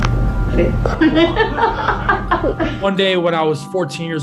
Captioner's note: laughing